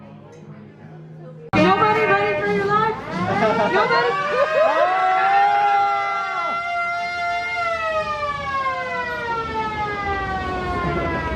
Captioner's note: sirens sound